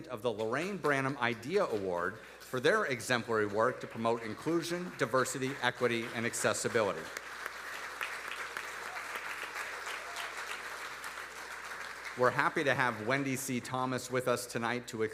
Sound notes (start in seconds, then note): 7.9 audience applauding